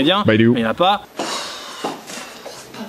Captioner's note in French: Soupir